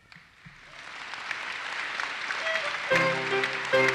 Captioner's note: audience applauses; violin music